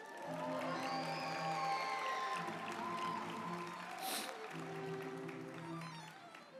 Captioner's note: group applauding; uplifting music